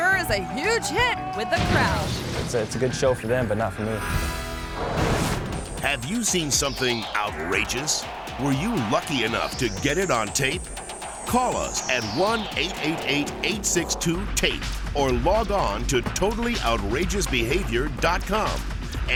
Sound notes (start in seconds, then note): 3.8 graphics whooshing